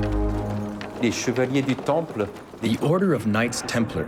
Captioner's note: speaking in foreign language